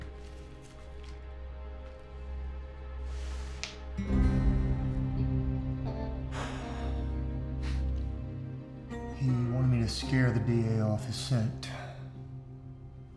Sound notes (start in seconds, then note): 6.2 sighs deeply